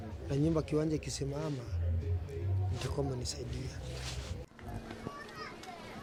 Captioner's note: speaking in non-English continues